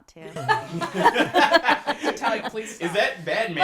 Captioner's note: group laughing